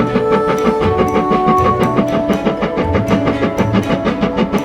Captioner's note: train chugging